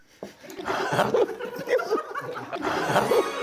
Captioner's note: laughing heartily